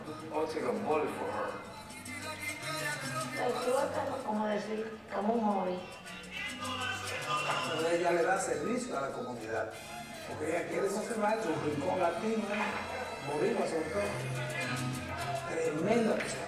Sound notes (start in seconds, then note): 2.6 speaking spanish